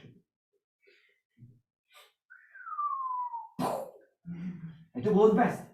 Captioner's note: whistles... mouths explosion sound. Audience laughs